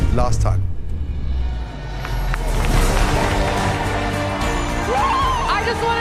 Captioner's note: cheering